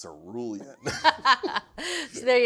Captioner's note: both laugh